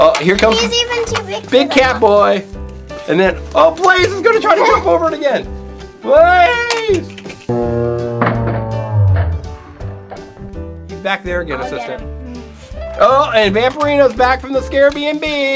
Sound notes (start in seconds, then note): 7.5 groaning